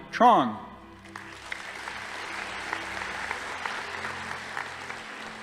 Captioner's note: audience applauding